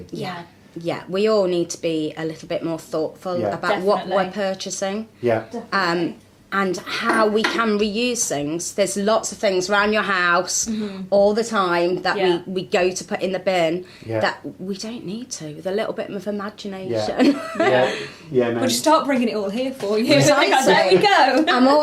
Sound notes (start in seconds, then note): 17.0 laughs